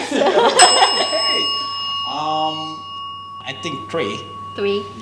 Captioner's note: rings the bell